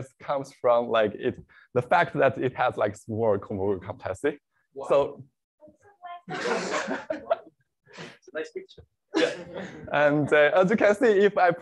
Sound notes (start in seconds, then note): 6.2 laughs; 9.1 laughter